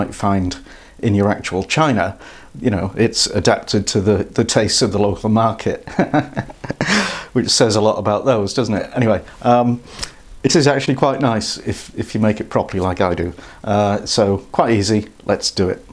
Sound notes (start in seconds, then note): 5.9 laughs